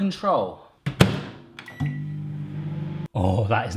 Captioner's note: microwave door closing and whirring